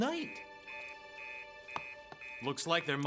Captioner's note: fax Machine Beeping